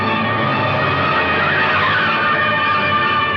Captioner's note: tires screeching